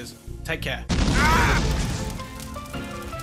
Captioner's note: screams